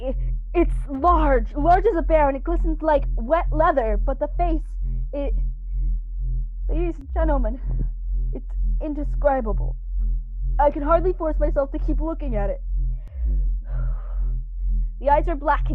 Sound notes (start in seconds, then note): none